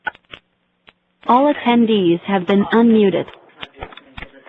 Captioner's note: AUTOMATED VOICE: All attendees have been unmuted